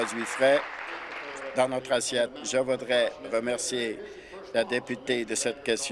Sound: applause

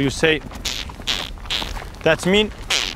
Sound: mouth noises

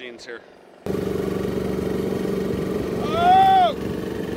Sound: machine roars

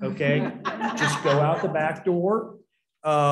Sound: laughter

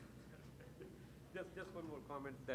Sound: chuckles; speaks faintly

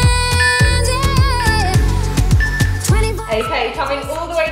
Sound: timer beeping

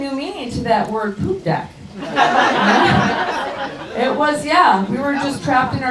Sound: audience laughs

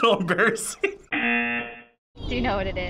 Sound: buzzer rings

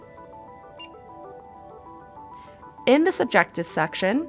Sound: electronic beep

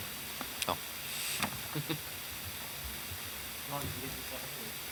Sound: man speaking off mic

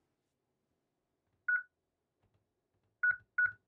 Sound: beeping

